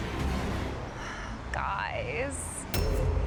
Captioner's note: sighs